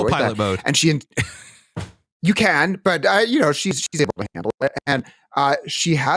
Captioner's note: laughs